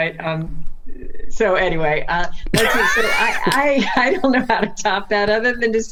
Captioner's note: laughs